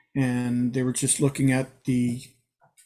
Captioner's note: none